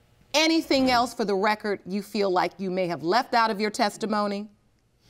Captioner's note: none